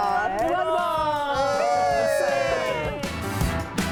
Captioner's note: all cheering; melodic upbeat music